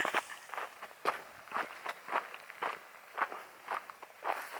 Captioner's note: footsteps in gravel